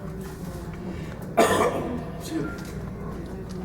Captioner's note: cough